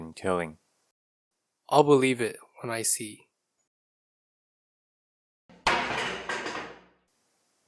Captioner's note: sound of falling chair